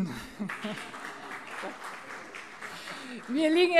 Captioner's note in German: Heiterkeit und Beifall